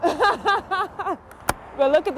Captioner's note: laughing